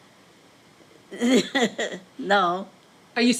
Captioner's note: laughs